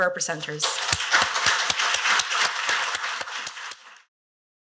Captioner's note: applause